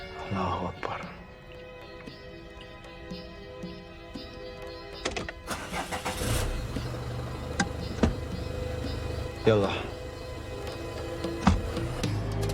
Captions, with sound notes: Allahu akbar. (starts engine) Yallah.